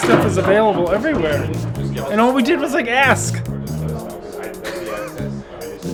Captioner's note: laughs